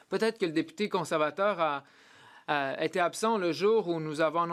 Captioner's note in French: voix de l'interprète